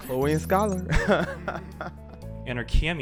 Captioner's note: chuckles